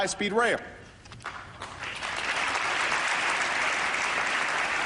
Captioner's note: applause